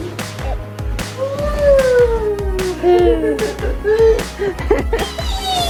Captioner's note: laughs